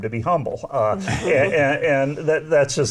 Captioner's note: laughing